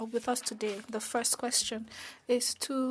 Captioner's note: speaking French